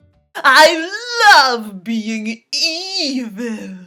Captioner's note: evil Voice